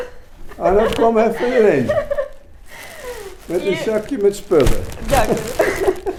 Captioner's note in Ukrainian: щось нідерландською; something Dutch